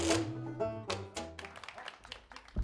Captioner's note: applause